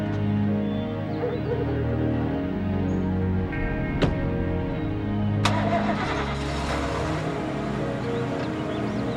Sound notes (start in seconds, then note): 0.9 dogs barking; 5.4 engine starting